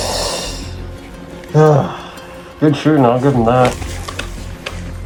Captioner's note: sucks air through teeth; exhales